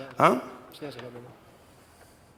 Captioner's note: spanish